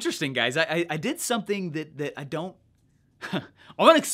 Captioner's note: chuckles